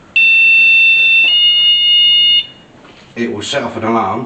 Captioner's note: alarm sound